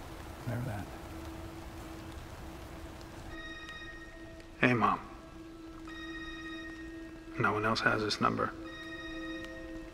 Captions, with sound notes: Remember that? (phone rings) Hey, mom. No one else has this number.